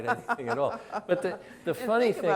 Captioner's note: laughs